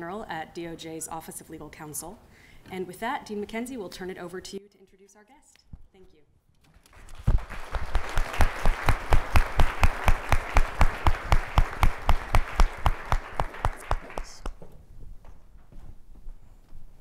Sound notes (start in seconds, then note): 6.9 audience applauding